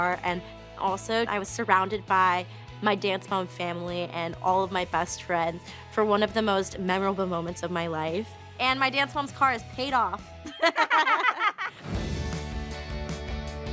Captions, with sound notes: and also I was surrounded by my Dance Moms family and all of my best friends for one of the most memorable moments of my life. And my Dance Moms car is paid off. [laughing] [upbeat music playing]